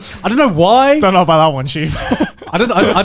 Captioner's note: chuckling